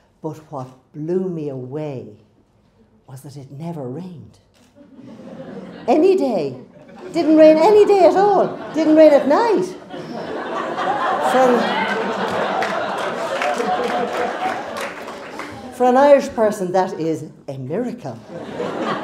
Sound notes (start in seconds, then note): 5.4 crowd laughs; 10.8 crowd laughs